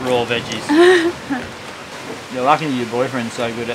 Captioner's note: laughs